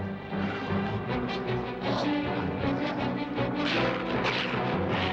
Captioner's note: snarling